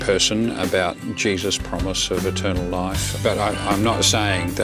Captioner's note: voiceover